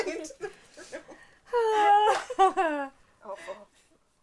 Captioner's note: sigh